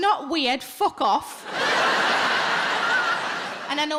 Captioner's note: audience laughing